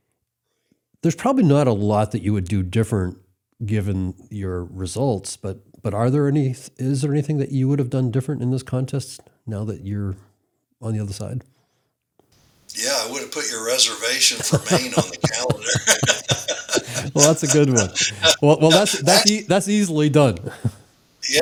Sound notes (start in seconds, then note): 16.3 both laugh